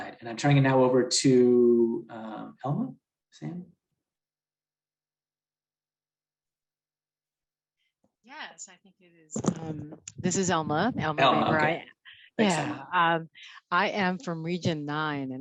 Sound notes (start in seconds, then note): 12.4 chatter